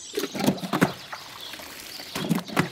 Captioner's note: water splashing